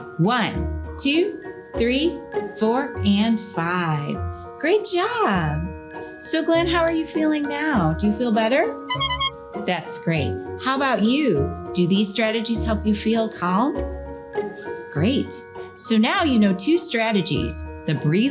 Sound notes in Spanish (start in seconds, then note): 8.8 pitido de bocina optimista; 13.8 música instrumental edificante